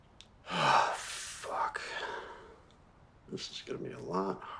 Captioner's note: sighs